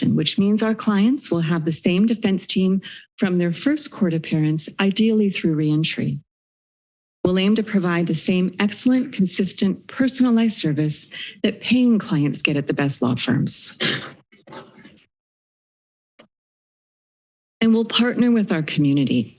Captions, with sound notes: which means our clients will have the same defense team from their first court appearance ideally through reentry. We'll aim to provide the same excellent consistent personalized service that paying clients get at the best law firms. [silence] And we'll partner with our community.